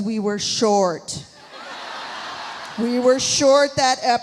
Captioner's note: audience laughs